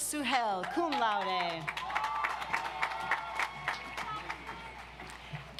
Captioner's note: audience applauds